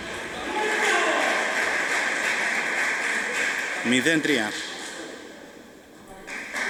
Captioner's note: applause